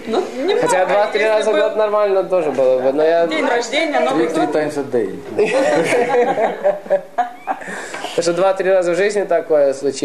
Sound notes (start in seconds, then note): 5.4 <i>laughing